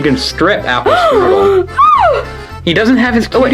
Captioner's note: gasps